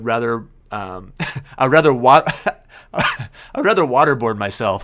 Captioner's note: laughs